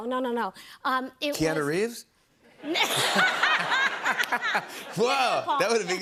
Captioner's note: laughter